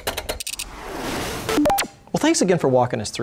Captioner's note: keyboard clacking; electronic beeping